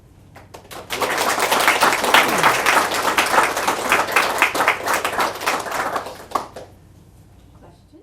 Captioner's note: applause